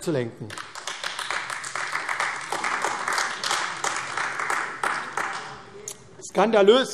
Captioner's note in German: Beifall AfD